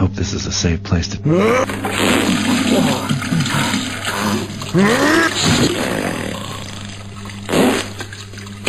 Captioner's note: sounds of violent diuretic discharge